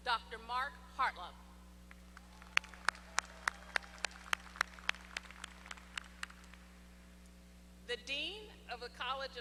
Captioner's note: applause